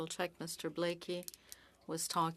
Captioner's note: speaking French